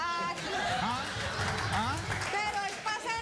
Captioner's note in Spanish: aplausos